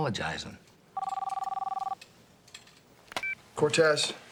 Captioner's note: phone ringing